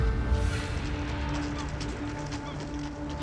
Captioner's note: seagulls chirping